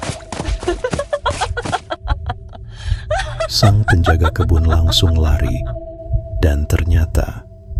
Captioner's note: laughs